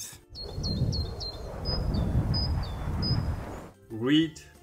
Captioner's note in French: les oiseaux sifflent